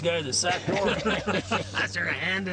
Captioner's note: laughing